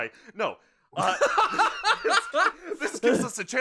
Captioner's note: laughter